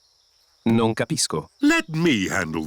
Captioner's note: replies in italian